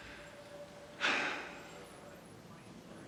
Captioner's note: sighs